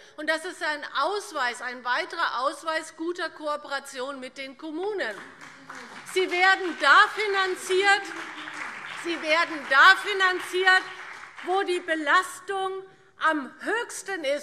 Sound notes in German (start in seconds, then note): 5.2 Beifall BÜNDNIS 90/DIE GRÜNEN und vereinzelt CDU - Zuruf DIE LINKE